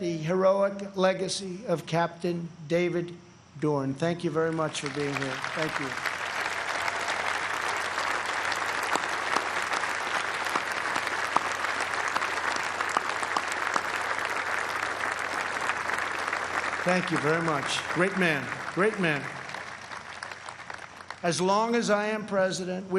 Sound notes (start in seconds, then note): 9.6 applause